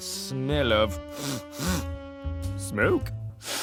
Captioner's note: sniff sniff; sniff